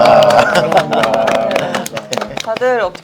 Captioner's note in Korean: 박수